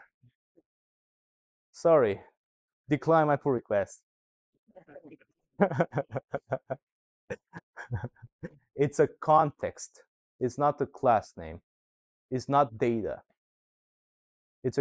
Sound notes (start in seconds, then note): 5.6 laughter